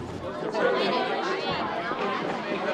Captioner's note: students talking indistinctly